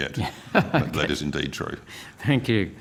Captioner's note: laughter